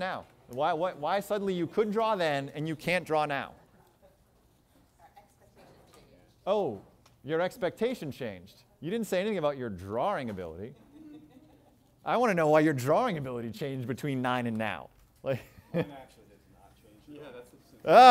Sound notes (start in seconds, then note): 10.7 chuckles